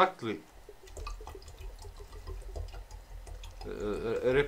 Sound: uh, water gurgling again

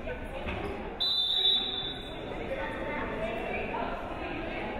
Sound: whistle blows

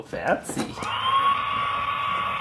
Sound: blow Dryer

